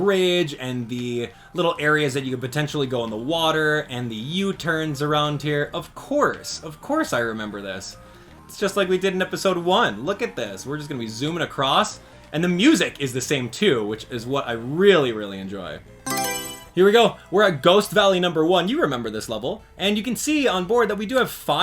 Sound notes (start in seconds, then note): 16.0 Mario Selection Sound